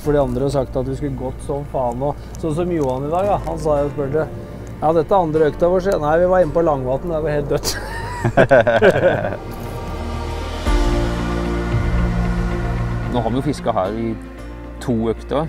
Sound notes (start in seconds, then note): 7.6 giggle